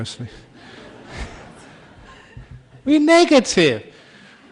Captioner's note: laughter